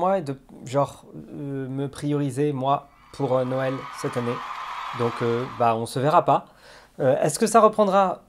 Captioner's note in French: acclamations